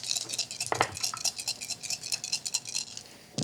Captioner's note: dice rattling